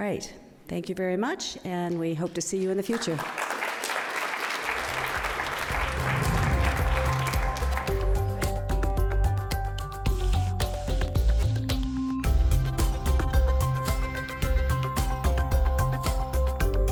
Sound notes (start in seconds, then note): 2.9 audience applauds; 6.7 upbeat digital music